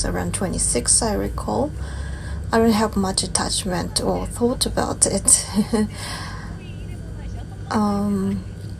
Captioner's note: lauhs